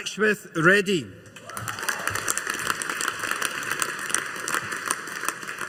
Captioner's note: audience applauding